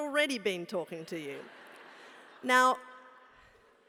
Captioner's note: laugh